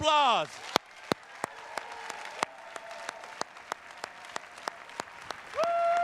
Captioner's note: attendees cheers and claps